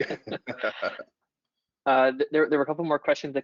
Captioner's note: laughs